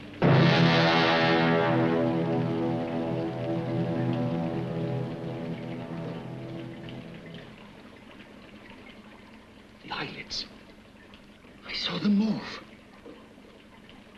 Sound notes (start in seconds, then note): 0.0 dramatic sinister music; 5.8 liquids bubbling